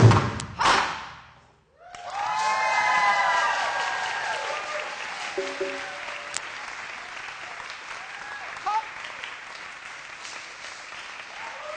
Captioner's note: applause